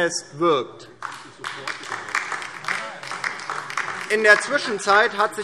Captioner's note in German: Beifall DIE LINKE